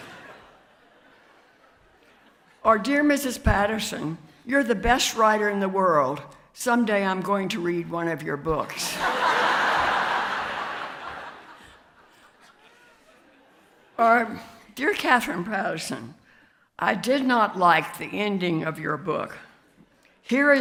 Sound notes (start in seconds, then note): 8.8 audience laughs